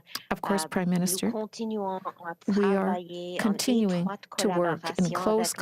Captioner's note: speaking french